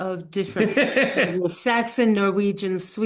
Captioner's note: laughs